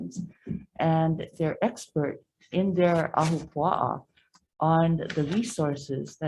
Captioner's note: speaks foreign language